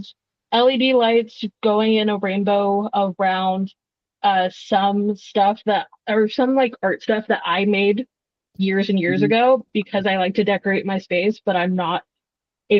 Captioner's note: laughs